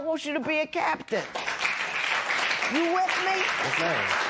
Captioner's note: applause